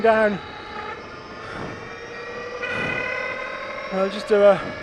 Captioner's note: engine revving